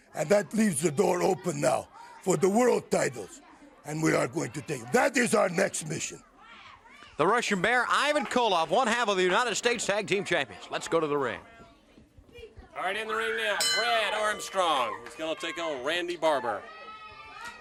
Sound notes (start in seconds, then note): 13.6 bell ringing